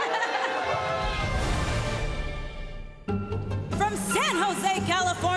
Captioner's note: laughing